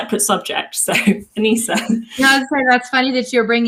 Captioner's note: chuckles